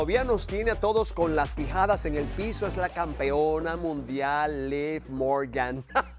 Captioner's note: laugh